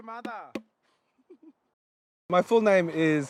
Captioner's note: laughs